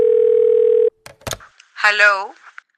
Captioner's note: Micheline on the phone